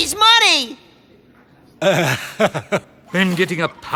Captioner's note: laughing nervously